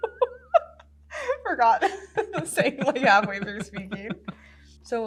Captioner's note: laughs